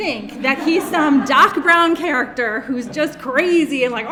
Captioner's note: audience laugh